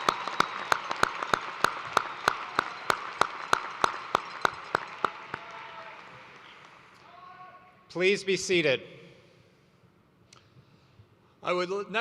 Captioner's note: cheers and applause